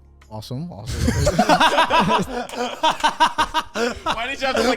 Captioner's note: laugh